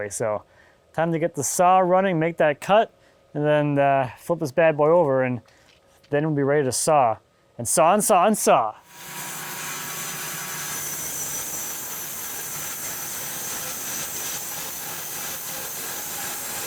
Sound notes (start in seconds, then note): 8.8 saw humming